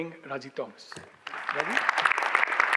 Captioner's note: audience applauds